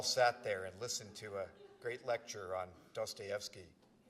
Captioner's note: laughter